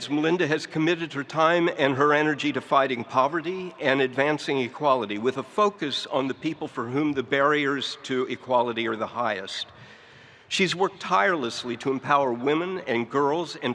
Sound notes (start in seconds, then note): none